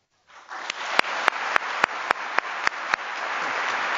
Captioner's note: applause